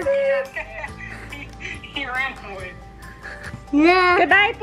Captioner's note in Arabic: يضحك